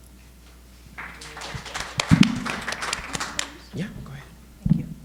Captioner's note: audience applauding